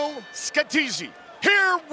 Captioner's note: bell dings